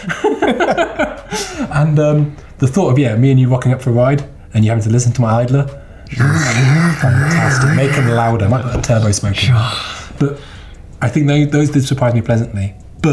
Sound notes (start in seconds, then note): 0.0 laughter; 6.1 gears turning noise